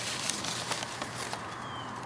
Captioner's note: ruffling papers